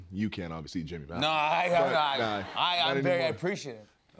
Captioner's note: laughter